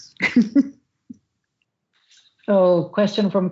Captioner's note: laughs